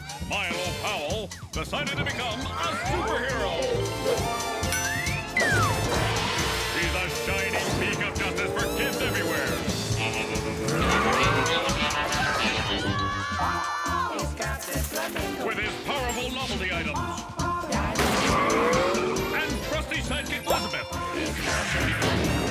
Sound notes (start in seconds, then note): 4.6 exciting music; 10.0 cool music playing; 10.0 motorcycle revving; 12.0 children shouting; 17.6 chorus vocalizing; 17.9 motorcycle crashing